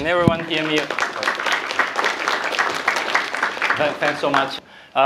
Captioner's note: applause